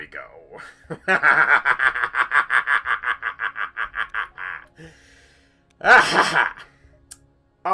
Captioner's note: maniacal laughter